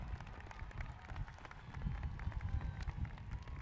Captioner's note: cheers and applause